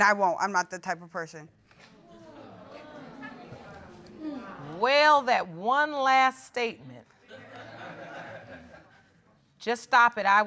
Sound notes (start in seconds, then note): 2.0 audience murmuring; 7.3 audience laughing